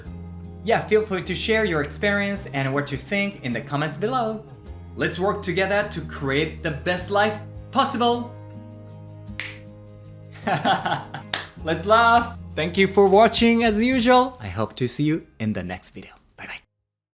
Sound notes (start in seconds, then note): 10.4 laughs